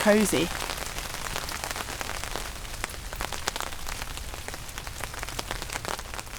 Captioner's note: rain